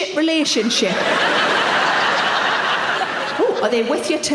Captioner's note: audience laughing